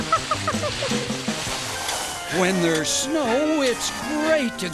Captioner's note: tornado